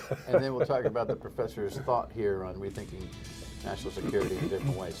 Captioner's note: laughter